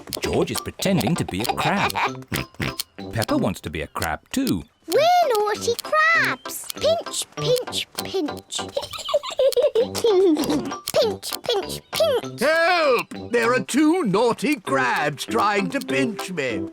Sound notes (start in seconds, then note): 8.8 peppa and george giggle